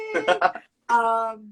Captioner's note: laughs